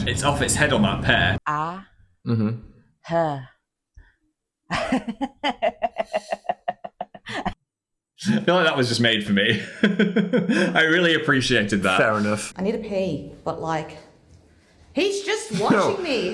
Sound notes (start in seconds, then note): 4.8 laughs; 9.5 Phil laughs